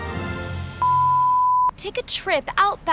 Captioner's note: short beep